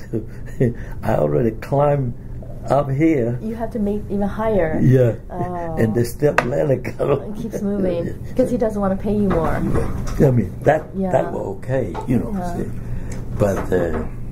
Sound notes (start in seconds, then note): 0.4 laughs